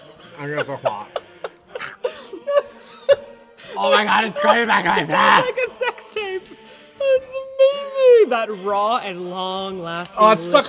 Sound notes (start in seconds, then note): 0.4 chokes; 2.1 more laughter; 10.0 gags